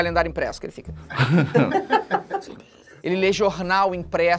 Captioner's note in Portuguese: risadas